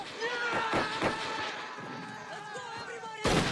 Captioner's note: soldiers charging yells